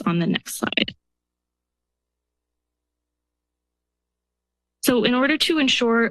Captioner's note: silence